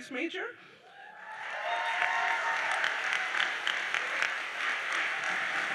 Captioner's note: audience cheers and applauds